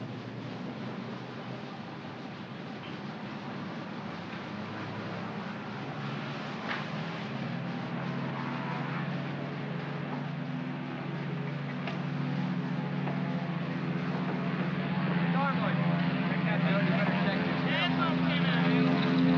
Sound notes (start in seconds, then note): 5.2 aircraft rumbles in distance; 19.1 aircraft roars